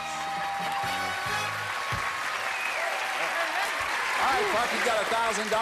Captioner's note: cheers and applause